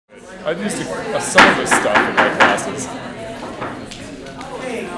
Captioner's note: gavel Pounding